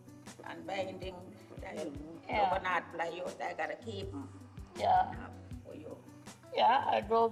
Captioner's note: speaks foreign language